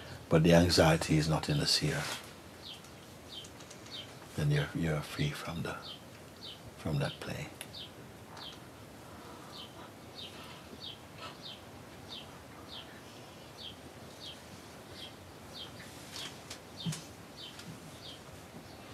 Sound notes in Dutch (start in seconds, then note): 8.9 stilte